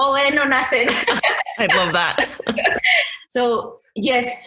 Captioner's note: both laugh